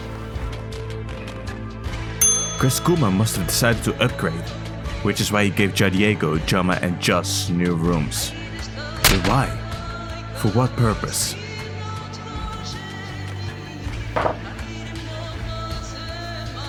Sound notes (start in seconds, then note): 14.1 hammer is put down